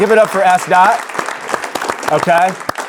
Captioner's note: audience applauding